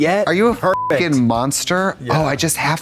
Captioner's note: beep